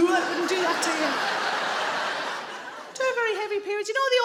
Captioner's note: audience laughing